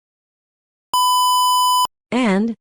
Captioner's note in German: Piep